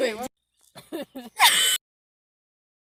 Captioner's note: more laughter